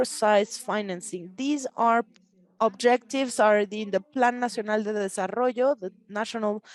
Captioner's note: speaks Spanish